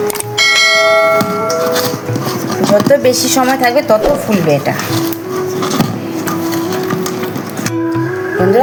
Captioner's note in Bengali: ঘণ্টা